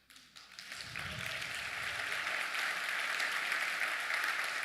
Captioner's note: applause